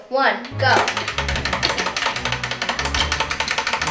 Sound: timer ticking

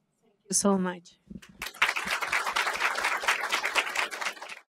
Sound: audience applauds

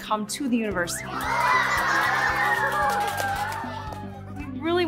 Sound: clapping and giggling

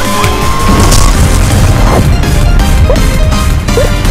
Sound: explosion

